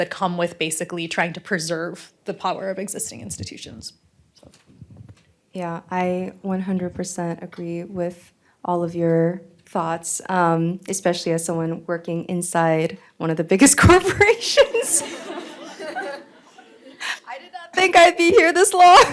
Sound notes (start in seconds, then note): 14.5 laughter